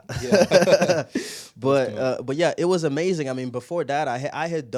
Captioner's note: laughing